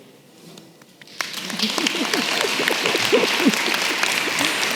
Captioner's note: applause